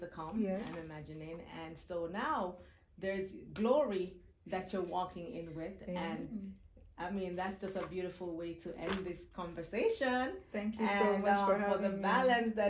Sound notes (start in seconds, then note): none